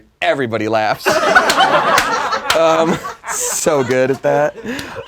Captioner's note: laughing